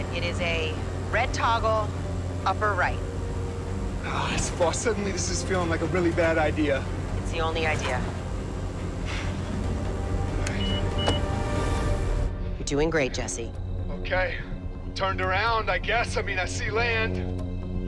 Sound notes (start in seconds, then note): 10.4 panel beeping